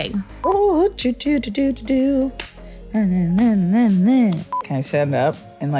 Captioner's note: humming